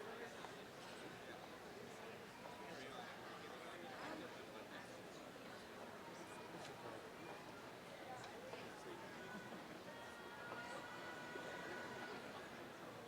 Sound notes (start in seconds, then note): 1.2 indistinct conversation